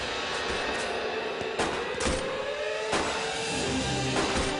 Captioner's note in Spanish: Disparos